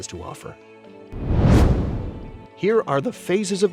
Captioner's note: comet whooshing